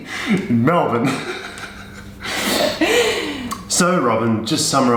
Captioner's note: laughs